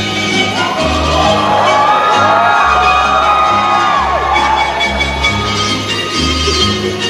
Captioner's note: audience cheers